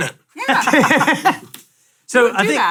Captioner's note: laugh